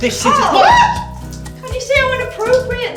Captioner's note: does a manly scream